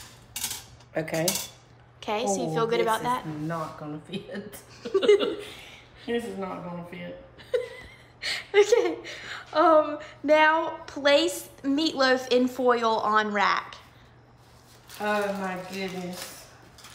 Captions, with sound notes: Okay. 'Kay, so you feel good about that? Oh, this is not gonna fit. (both laughing) This is not gonna fit. Okay, now place meatloaf in foil on rack. Oh my goodness.